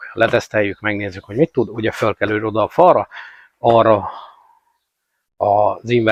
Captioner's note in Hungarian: sóhajtás